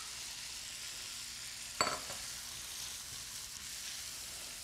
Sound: food sizzling

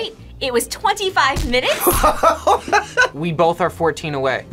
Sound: laughs

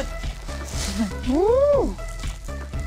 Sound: exclaiming

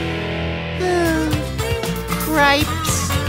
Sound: sighing

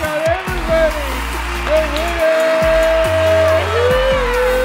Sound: audience claps

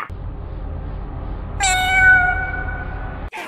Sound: cosmic meowing

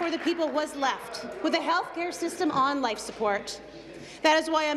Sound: applause

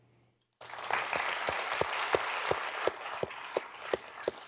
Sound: audience applauding

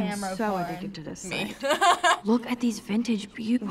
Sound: laughing

